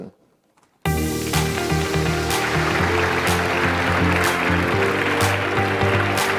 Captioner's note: upbeat music; audience applauding